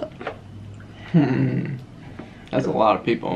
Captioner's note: chuckles